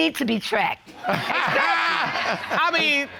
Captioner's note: all laugh